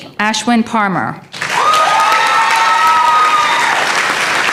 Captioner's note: applause